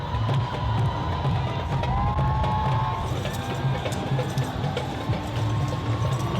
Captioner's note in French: acclamations de la foule